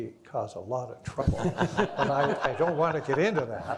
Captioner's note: all laughing